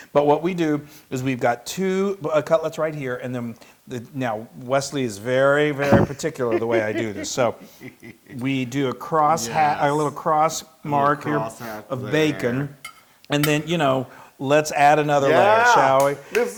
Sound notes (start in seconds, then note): 5.8 laugh